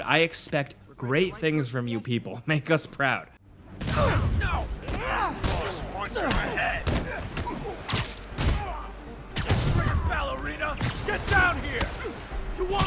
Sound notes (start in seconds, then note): 7.8 pained groaning